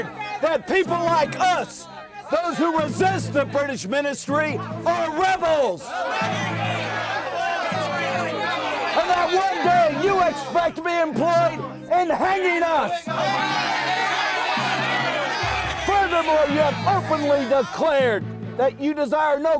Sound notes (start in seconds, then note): 14.2 crowd yelling